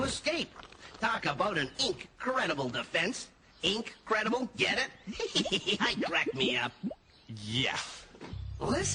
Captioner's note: chuckles